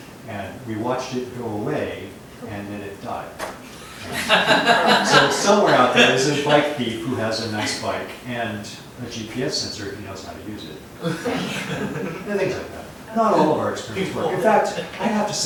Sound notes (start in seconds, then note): 3.8 laughter